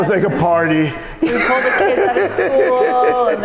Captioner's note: laughter